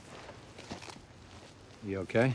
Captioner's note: footstep